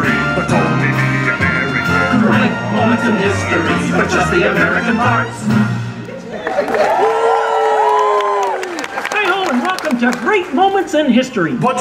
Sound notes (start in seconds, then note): 0.0 patriotic themed music; 5.4 patriotic themed music; 6.3 audience cheers